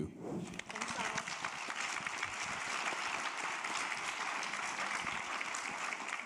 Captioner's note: audience applauding